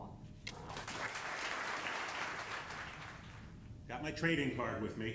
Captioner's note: audience applauding